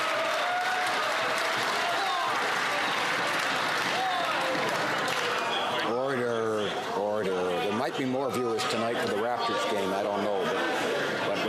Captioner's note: some Applause